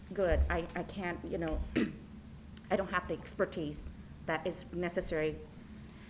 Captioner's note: clears throat